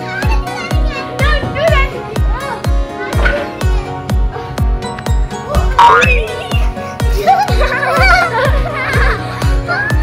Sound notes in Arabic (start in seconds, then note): 6.3 أطفال يضحكون